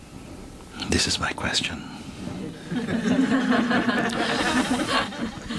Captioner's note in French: rires